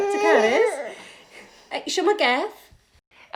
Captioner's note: the baby grumbles